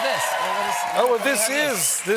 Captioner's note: cheers and applause